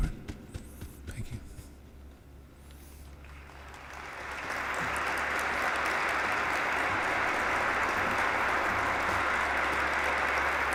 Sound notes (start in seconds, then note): 3.2 applause